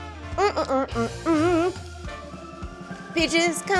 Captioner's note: hums